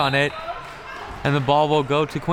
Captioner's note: whistle tweeting